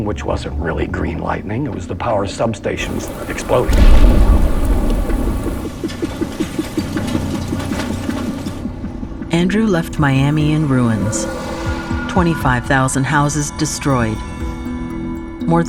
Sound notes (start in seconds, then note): 9.3 explosion in distance